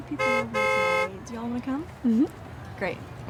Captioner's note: car honking